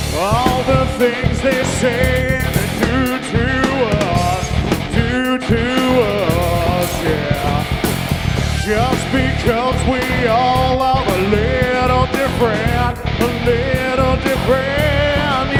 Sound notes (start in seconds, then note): none